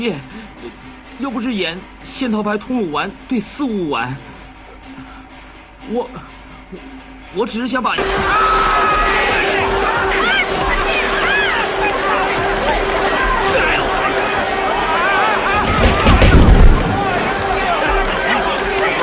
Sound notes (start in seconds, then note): 12.3 actors shouting; 13.5 column crashing